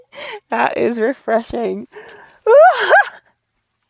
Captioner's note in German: lacht